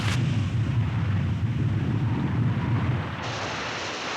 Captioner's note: geyser rumbling